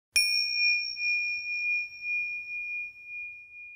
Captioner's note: bell chimes